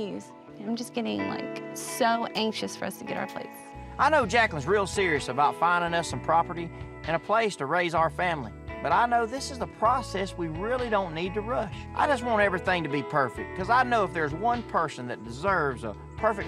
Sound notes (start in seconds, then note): none